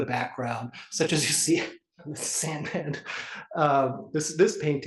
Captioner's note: laugh